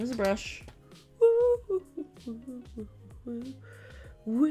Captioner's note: humming